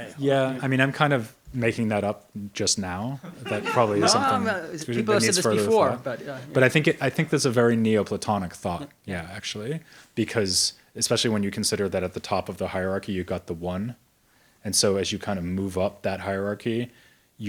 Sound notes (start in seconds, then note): 3.2 audience member laughs